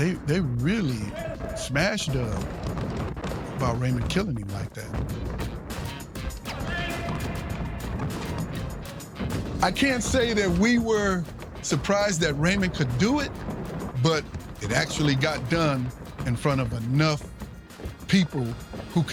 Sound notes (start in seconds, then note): 6.4 people murmuring